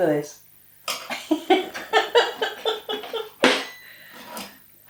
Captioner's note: laffin